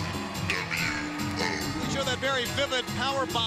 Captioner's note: crowd cheering